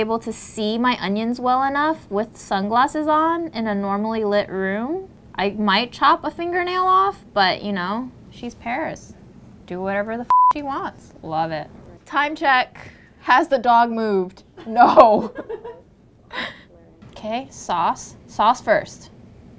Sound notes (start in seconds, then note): 10.3 beep; 14.6 woman laughs; 14.6 laughing